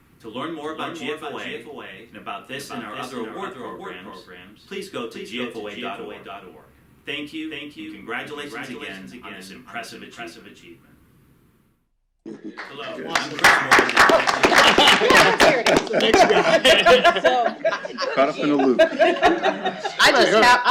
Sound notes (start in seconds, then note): 12.5 applause; 14.0 laughter